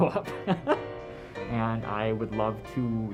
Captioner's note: laughs